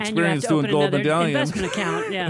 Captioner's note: laughs